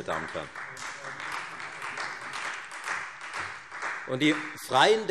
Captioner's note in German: Beifall Freie Demokraten